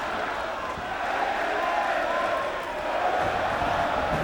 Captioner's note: crowd vocalizing